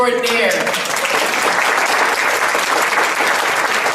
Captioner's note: audience applauds